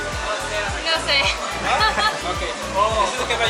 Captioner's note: laughter